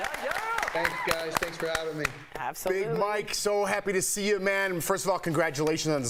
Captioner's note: applause